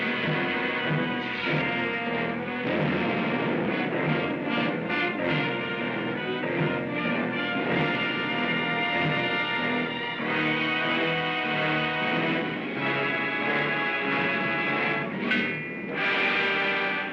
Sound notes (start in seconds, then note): 0.0 dramatic music; 1.1 zapping sound; 2.6 boom; 5.2 dramatic music; 7.5 boom; 9.7 dramatic music; 12.1 boom; 13.6 dramatic music